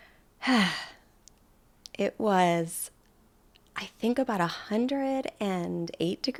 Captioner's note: sighs heavily